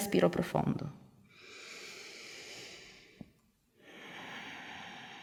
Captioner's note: inhale-exhale